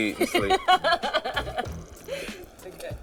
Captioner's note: laughs